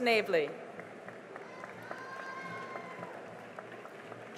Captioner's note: cheering and applause